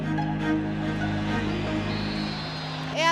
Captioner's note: crowd cheers